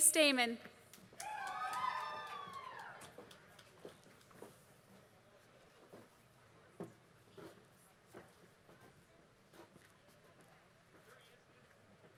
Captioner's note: applause